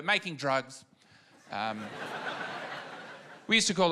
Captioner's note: laughter